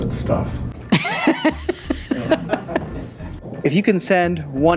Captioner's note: laughing